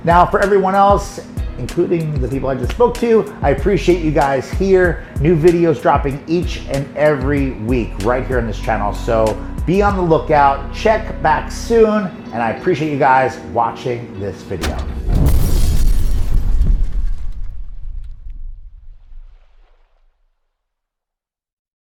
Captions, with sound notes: Now for everyone else, including the people I just spoke to, I appreciate you guys here. New videos dropping each and every week right here in this channel, so be on the lookout, check back soon, and I appreciate you guys watching this video. (glass breaking) (water splashing)